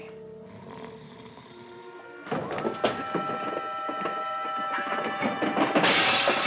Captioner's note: suspenseful music; Hodges snores; glass smashes